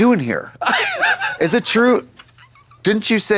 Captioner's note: Katya puffs